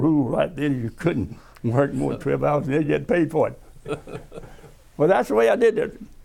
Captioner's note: laughter